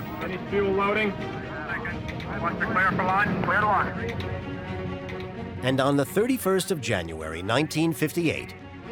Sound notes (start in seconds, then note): 1.7 male voice over radio